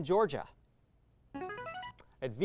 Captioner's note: signaling device tone